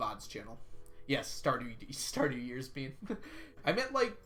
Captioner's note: laughs